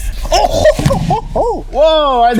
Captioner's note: screams